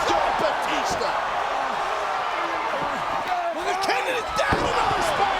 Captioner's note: crowd cheering